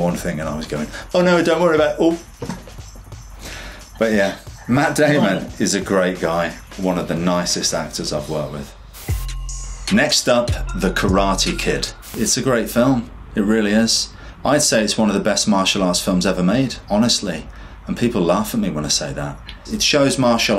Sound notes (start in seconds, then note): 8.8 air whooshes; 9.1 upbeat instrumental music; 11.7 air whooshes